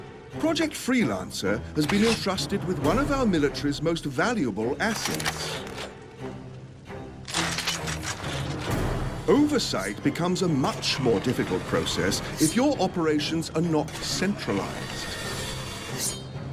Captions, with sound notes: Project Freelancer has been entrusted *weapon loading* Project Freelancer has been entrusted *weapon loading* with one of our military's most valuable assets. with one of our military's most valuable assets. *weapon loading* Oversight becomes a much more difficult process *metal scraping* Oversight becomes a much more difficult process *metal scraping* if your operations are not centralized. *metal scraping*